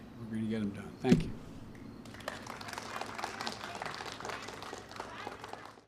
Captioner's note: applause